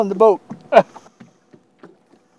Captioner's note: laughter